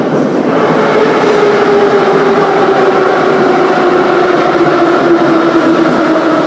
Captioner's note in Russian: торможение - прибытие на станцию